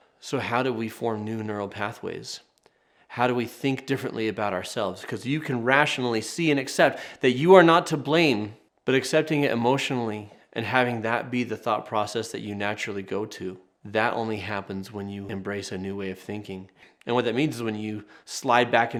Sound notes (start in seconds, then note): none